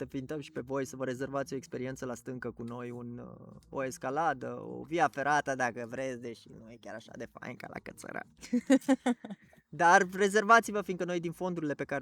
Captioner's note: laughs